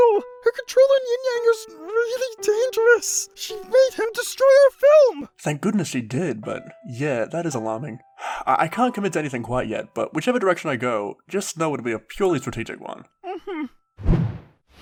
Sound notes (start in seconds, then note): 8.0 sigh